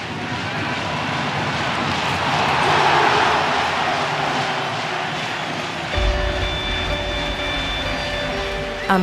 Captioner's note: applause